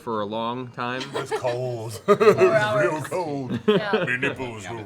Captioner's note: laughs